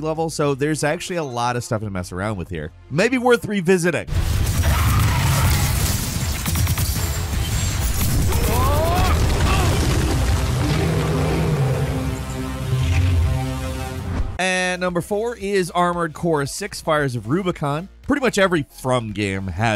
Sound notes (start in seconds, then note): 4.0 character shouting; 4.2 gunfire exploding; 10.3 monster growling